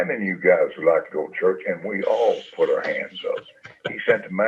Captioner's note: chuckles